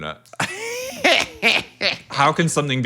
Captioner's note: laughs